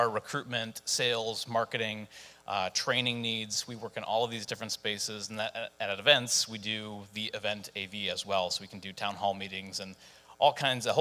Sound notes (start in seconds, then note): none